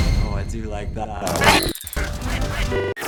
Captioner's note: speech glitches